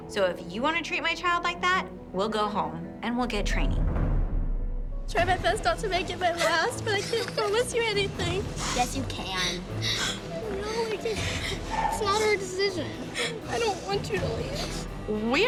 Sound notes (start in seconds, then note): 9.2 sobs; 9.2 sniffles